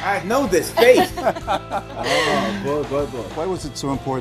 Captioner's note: laughs